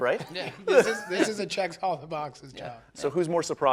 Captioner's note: laughing